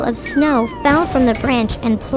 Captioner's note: funny sound effect